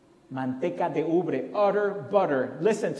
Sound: foreign language

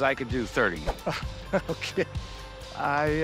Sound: chuckles

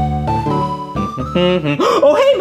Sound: Luigi humming and gasping

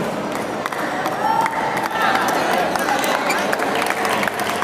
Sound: applause

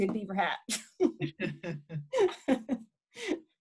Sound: laughing

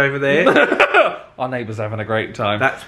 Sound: chuckling

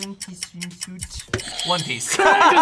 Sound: buzzer rings

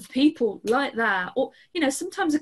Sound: snaps fingers

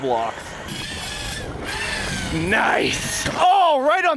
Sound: RC truck wheels spinning

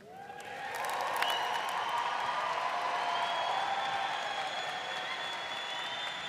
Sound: audience cheering and applauding

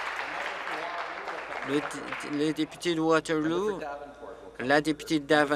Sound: applause

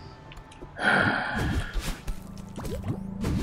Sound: sighs disgustedly

